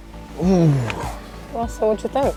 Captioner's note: grunting